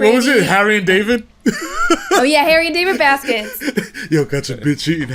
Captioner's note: laughing